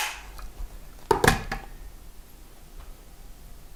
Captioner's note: clicks